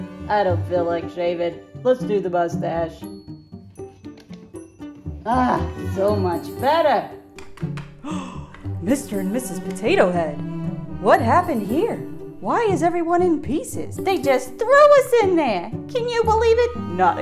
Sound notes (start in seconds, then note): 0.5 nasally voice; 7.9 gasps